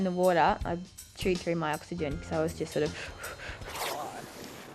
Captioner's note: shallow breaths